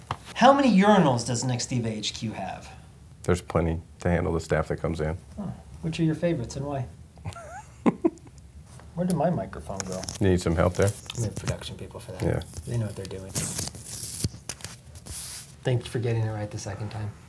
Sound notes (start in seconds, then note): 7.2 laughs; 13.7 tape creaks; 15.3 hands sliding